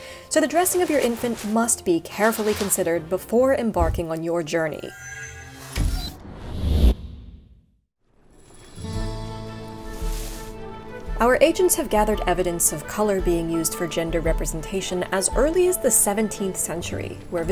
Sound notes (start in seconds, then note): 5.4 air whooshing; 8.9 spirited music; 9.5 bushes rustling